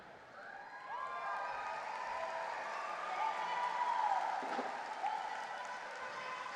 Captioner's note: audience cheering and applauding